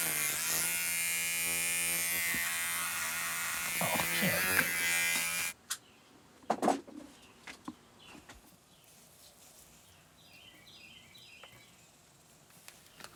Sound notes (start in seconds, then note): 9.8 birds chirping